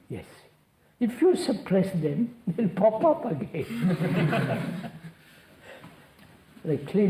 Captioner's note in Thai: หัวเราะ